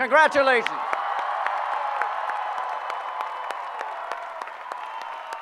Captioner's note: cheering